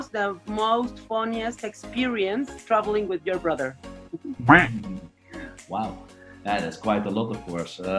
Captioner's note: laugh